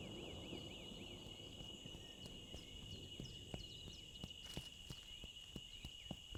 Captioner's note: crickets chirping